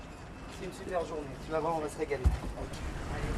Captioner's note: speaking French